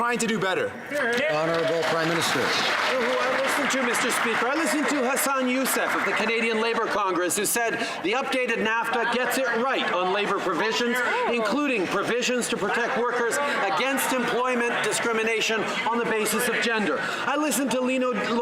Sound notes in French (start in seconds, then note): 3.6 voix de l'interprète